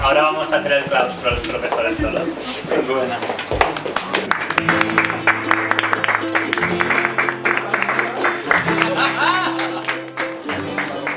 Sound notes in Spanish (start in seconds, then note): 3.7 aplausos